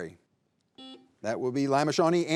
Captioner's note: buzzer buzzing